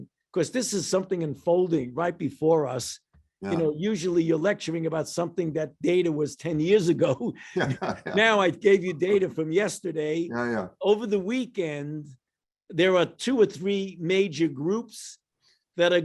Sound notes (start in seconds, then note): 7.4 laughs